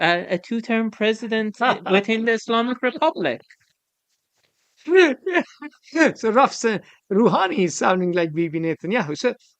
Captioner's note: laughs